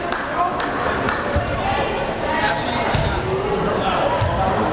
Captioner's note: crowd chatter